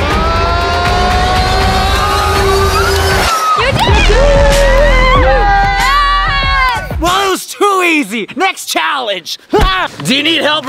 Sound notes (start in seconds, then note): 0.0 suspenseful music; 4.3 cheering loudly